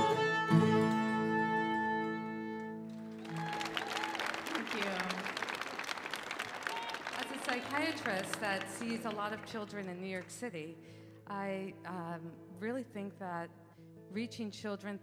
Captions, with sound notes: (audience cheering) (audience applauding) - Thank you. - As a psychiatrist that sees a lot of children in New York City, I really think that reaching children